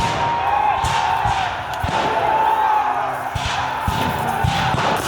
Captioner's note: soldiers cheering